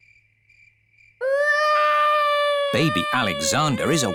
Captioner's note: baby alexander crying